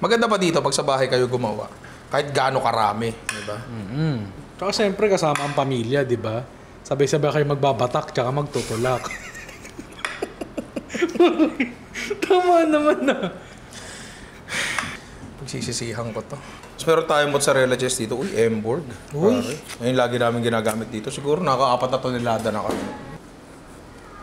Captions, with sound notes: The good thing about doing this at home, it doesn't matter if you put a generous amount of toppings. And you're with your family, right? You can do stuff together. [laughs] [laughter] Am I right? I'm going to regret this. - We have mozzarella cheese from Emborg. - Nice! We love this cheese. Exaggeratedly, we've consumed 4 tons of this already.